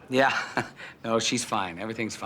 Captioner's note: chuckles